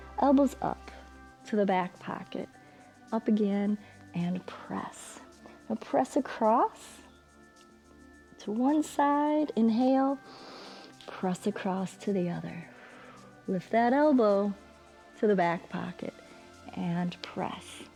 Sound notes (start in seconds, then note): 10.2 exhales; 10.2 inhales